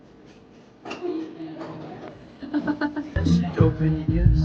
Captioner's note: laughs